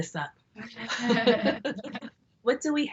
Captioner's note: both laugh